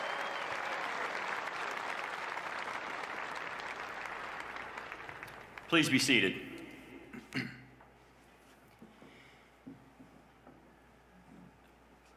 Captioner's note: cheers and applause